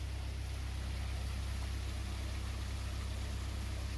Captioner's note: running water sounds